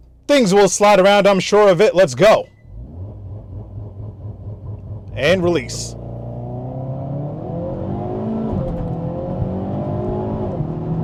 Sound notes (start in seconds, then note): 2.6 car revving; 6.0 car engine roaring